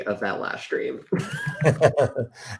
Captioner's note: laughter